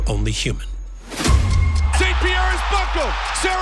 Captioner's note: dramatic percussion; clock ticking; crowd exclaims